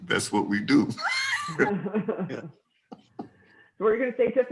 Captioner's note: laughing